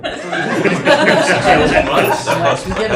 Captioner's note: laughter